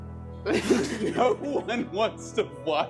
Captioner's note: laughing